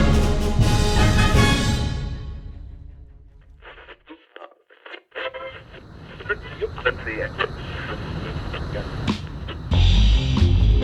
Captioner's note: radio Static - Channels Changing